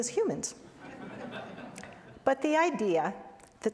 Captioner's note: laughter